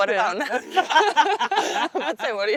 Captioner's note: women laughing